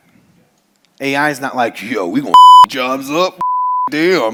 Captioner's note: beep